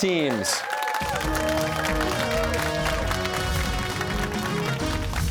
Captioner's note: cheers and applause